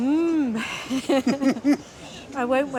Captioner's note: she laughs